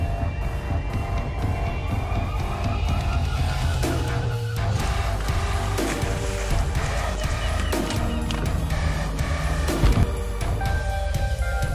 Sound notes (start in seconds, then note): 6.0 fish splashing; 8.3 intense techno music